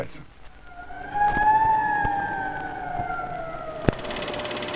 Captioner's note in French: sirène